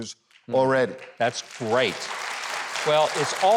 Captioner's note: audience applauding